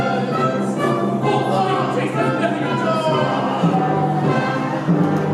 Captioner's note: CYRIL yells